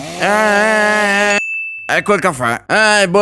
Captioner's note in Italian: ding